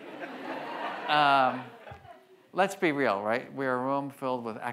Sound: audience laughs

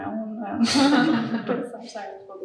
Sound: audience laughs

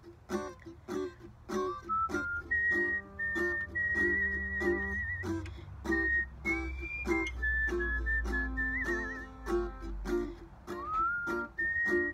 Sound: whistling

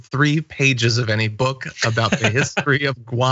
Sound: laugh

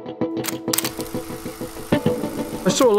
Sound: camera clicking

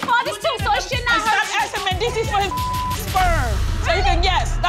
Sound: beep

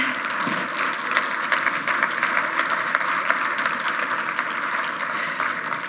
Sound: loud applause

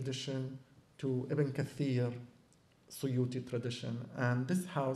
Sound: non-english

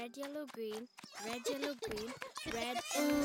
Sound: Bongolalas cheering

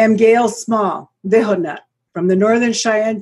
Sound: speaks foreign language

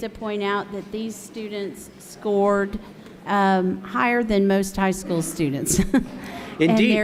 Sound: chuckles

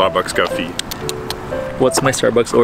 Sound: tuts

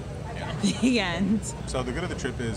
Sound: laughs

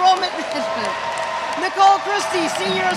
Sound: audience cheers

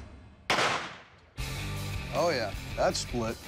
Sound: gunshot

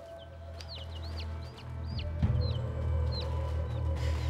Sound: peeping

